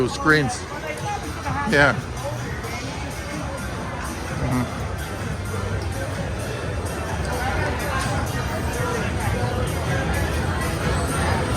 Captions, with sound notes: - Oh yeah. But I thought they should have that... - Yeah. Mm-hmm. (people chattering) (upbeat music)